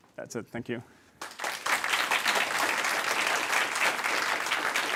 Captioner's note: applause